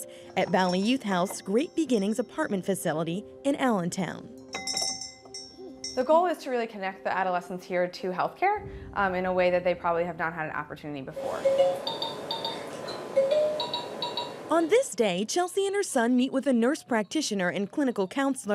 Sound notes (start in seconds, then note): 11.5 toy chiming